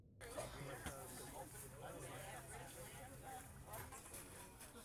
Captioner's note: people chatter